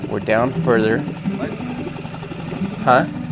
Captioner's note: motor boat whirring